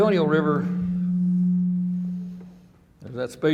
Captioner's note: microphone humming